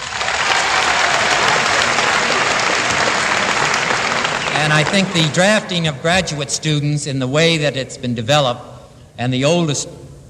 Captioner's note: applause